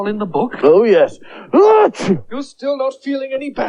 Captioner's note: sneezes Loudly